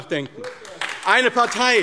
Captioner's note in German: Beifall AfD